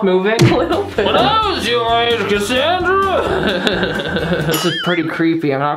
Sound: laughs

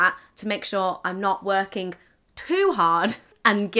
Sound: giggles

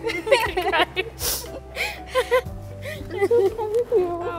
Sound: laughing

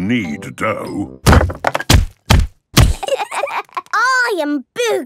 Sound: banging

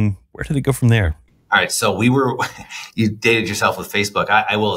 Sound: laughs

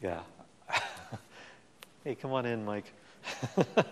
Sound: laughs

